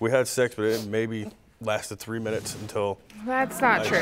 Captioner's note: laughs